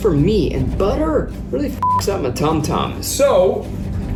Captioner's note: beep